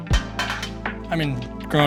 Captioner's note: utensil clanks